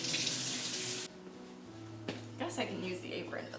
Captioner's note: water running